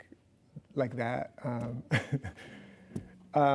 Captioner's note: chuckles